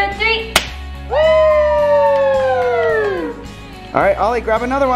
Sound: cheering

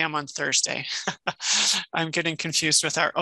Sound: laughs

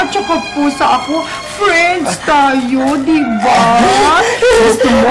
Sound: giggles

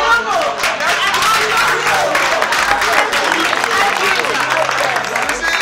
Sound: applause

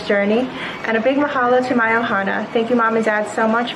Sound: non-english speech

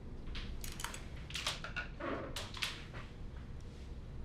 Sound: floorboards creaking

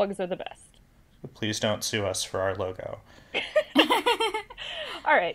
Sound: laugh

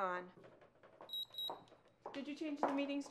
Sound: alarm: beep, beep

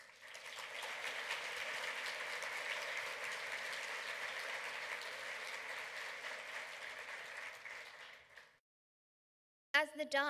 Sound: clapping

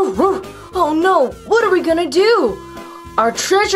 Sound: barks

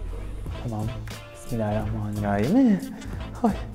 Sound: worried laugh

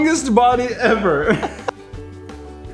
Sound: are still laughing!?

